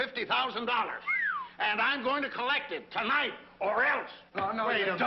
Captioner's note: all whistle